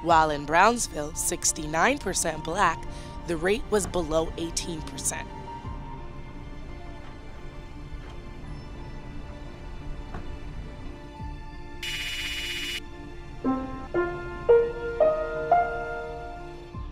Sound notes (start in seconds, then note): 9.6 pensive music; 12.3 text clicking; 13.9 inspiring music